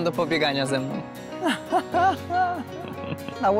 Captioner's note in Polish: śmiech